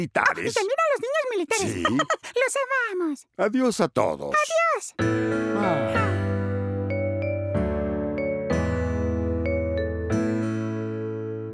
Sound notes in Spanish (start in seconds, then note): 5.0 música suave; 5.5 suspiros